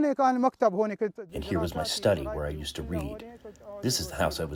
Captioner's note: through translator